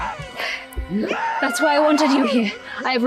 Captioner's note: screaming from tent